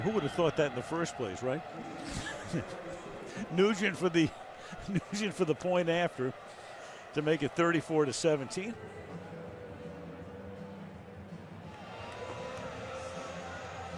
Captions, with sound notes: And who would have thought that in the first place, right? [laughter] Nugent for the-- Nugent for the point after to make it 34 to 17.